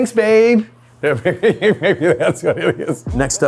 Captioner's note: laughs